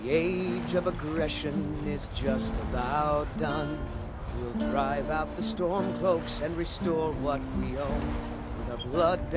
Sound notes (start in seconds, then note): 4.3 wind blows